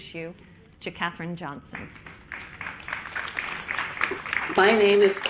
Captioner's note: applause